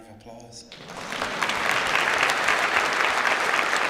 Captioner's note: clapping